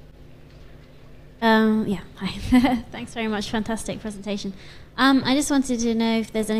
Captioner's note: laugh